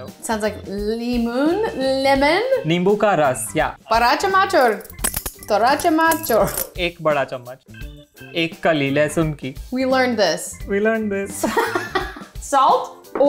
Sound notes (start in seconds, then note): 2.7 speaking in Hindi; 11.4 laughing